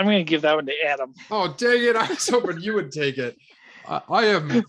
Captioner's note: laughs